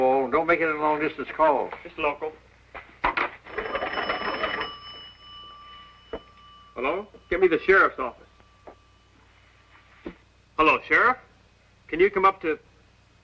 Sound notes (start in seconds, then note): 3.4 ringing